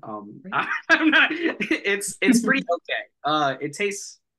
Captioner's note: laughs